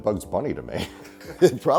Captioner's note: chuckles